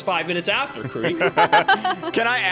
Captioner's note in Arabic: تضحك